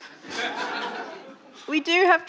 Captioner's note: audience laughing